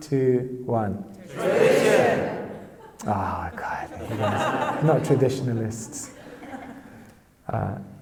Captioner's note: laughing; audience laughs